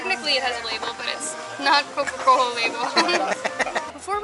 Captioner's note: laughter